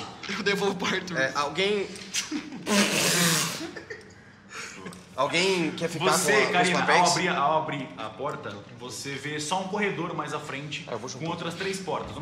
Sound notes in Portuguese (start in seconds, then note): 3.6 Risadas